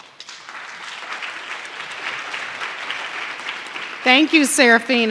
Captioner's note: audience clapping